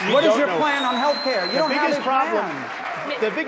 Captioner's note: applause